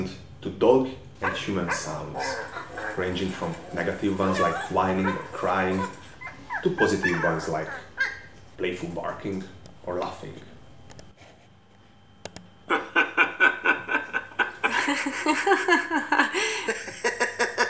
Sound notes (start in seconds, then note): 4.9 like whining or crying; 9.5 like playful barking or laughing